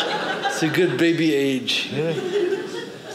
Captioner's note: audience laughing